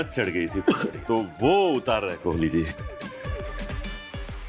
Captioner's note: Cough